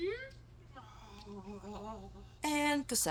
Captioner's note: devouring noises